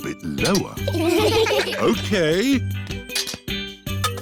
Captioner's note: laughter